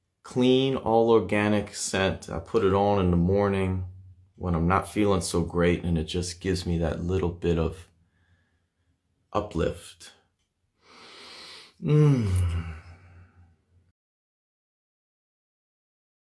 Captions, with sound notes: clean, all organic scent. I put it on in the morning when I'm not feeling so great, and it just gives me that little bit of uplift. [Sniff] Mmm...